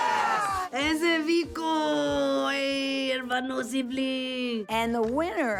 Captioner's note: speaks in foreign language